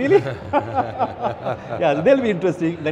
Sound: laughing

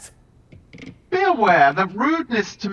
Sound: floor creaking

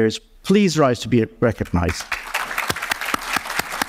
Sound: applause

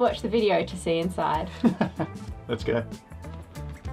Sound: laughs

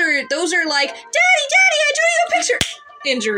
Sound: slap

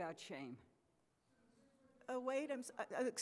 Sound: speaks off microphone; voiceover

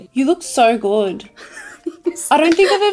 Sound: giggles

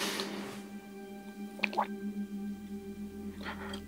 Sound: swallowing

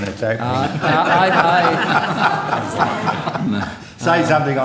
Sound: laughter

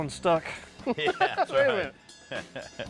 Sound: chuckles; laughs

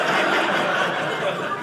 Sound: audience laughing

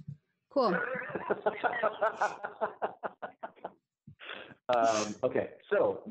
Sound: laughs

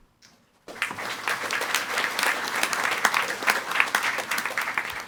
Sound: audience applauding

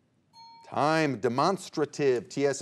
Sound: alarm clock ringing

